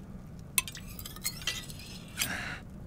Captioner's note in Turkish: Bileme sesi